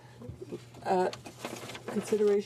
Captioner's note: speaking French